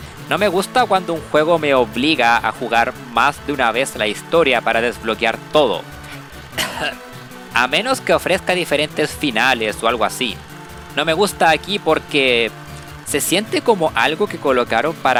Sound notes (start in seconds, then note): 6.5 cof